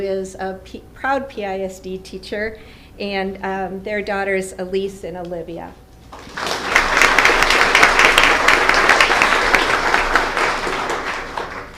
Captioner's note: applause